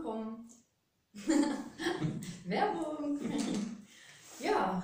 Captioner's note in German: lachen